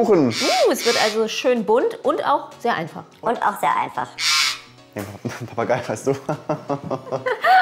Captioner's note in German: in Papageienstimme: und auch sehr einfach